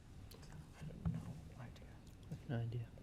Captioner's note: whispers